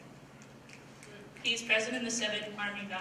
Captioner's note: snapping